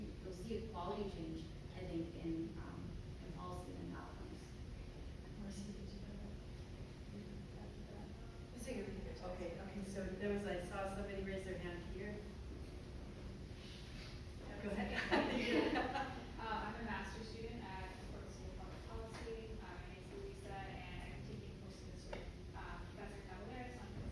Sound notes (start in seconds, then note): 5.4 indistinct conversation; 14.9 laughing